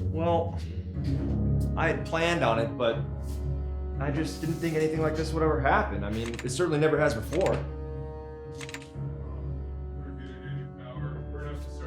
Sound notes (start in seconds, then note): 8.3 breakers flipping